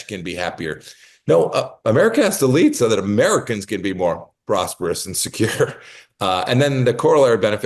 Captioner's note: laugh